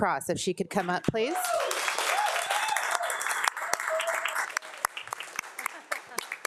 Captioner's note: group cheers and applauds